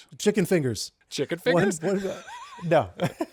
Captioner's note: laughing